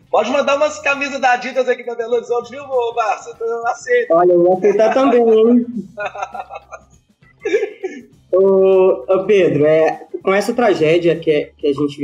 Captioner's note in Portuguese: risos